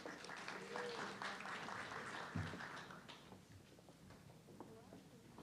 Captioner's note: audience clapping